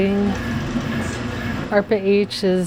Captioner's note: machine whirring